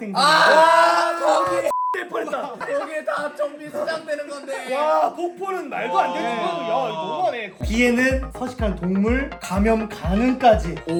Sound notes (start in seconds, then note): 4.5 cry